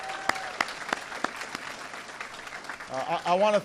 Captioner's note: applause